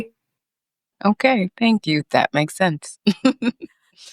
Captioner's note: chuckles